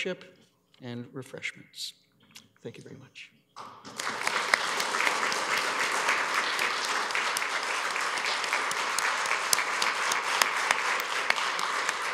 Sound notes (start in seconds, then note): 3.6 applause